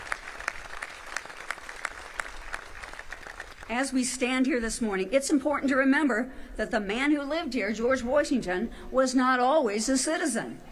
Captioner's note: applause